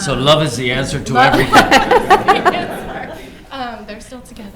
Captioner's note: all laughs